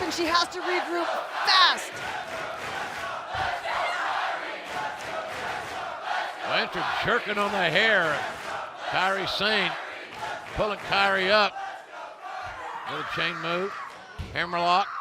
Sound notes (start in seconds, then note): 5.6 fans chanting